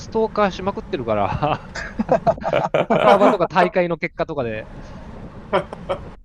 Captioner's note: laughs